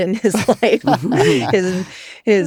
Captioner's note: laughter